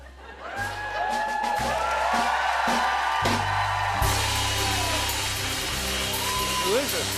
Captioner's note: cheers and applause